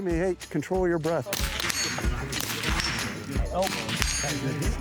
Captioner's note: gun firing